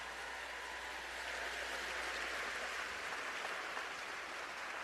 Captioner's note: cheers and applause